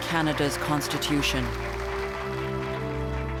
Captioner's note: applause